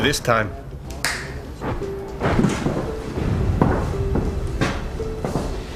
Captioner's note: snapping fingers